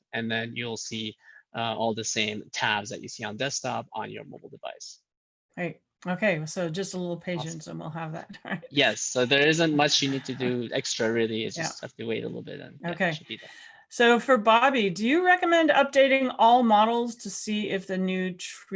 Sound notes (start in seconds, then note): 9.8 laugh